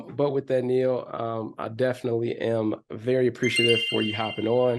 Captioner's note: chime sounding